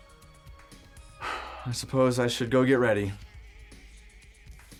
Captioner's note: sighs